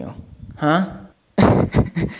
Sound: laughs

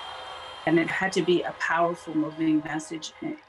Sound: cheers and Applause

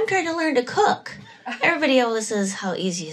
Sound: laughter

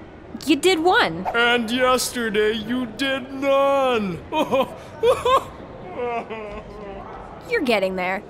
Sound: laughs in a complex mixture of glee and disappointment

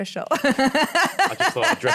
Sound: laughs

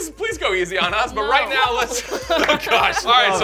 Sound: laughter

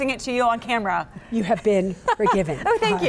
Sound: laughs

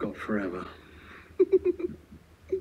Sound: giggling

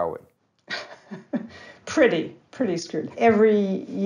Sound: chuckling

